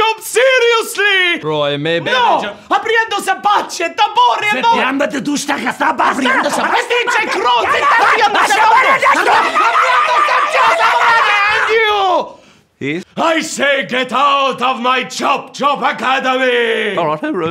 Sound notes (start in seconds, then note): 2.4 yells in a made up language; 5.5 his brother yells back in a different made up language